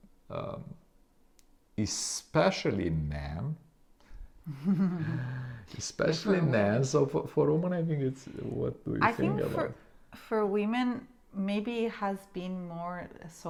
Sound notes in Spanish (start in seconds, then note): 4.5 ambos se ríen; 6.4 murmuran